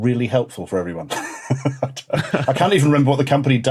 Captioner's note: chuckle